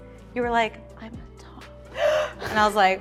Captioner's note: quiet voice